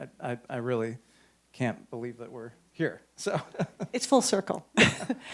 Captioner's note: chuckles